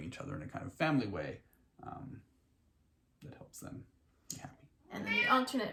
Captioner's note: cat meows